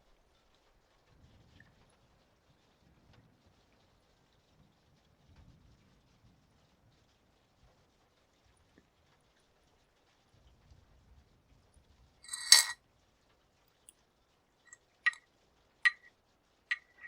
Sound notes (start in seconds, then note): 12.2 jewelry shuffling; 14.9 tapping sounds